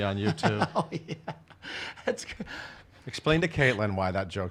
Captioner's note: laughs